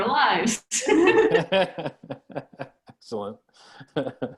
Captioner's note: laughs